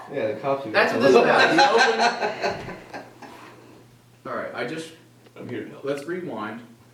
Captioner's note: laugther